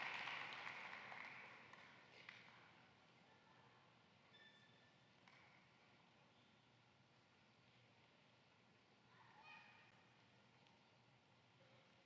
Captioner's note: applause